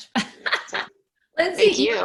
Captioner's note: laughing